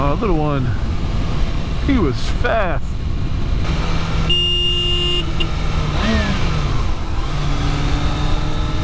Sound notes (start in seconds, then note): 6.0 engine rev